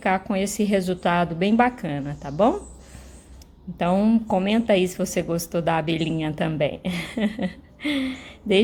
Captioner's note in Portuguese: risadas